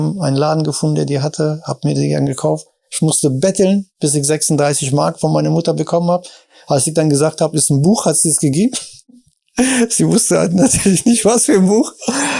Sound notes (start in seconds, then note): 9.6 chuckles; 12.0 laughs